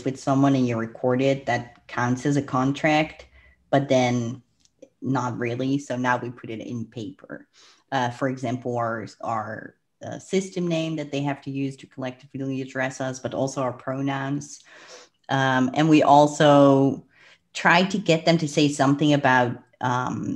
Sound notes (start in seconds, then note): 14.6 breath